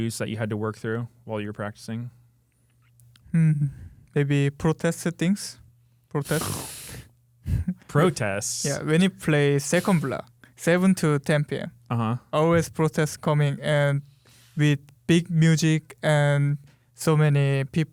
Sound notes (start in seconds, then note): 6.2 sighs